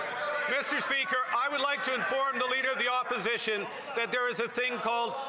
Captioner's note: applause